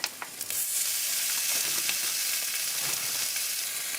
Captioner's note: sizzle